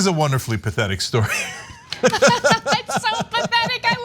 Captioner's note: laugh